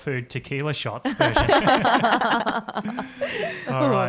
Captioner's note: all laugh